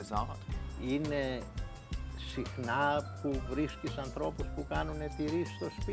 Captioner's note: speaks foreign language